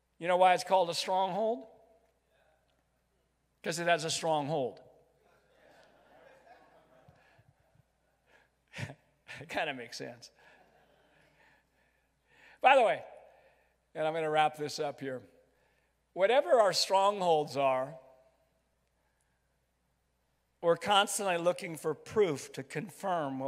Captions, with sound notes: You know why it's called the stronghold. - [Crowd] Yeah. - 'Cause it has a strong hold. - [Crowd] Yeah. - (laughs) Kind of makes sense. By the way, and I'm going to wrap this up here. Whatever our strongholds are, or constantly looking for proof to confirm,